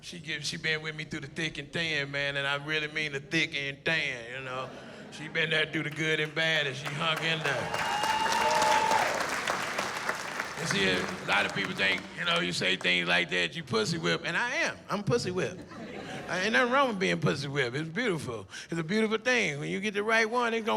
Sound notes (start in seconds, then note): 10.2 cheering